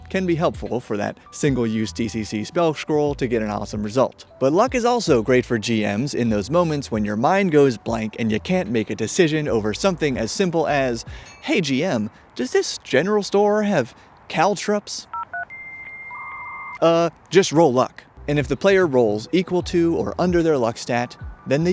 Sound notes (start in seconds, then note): 15.1 dial up noises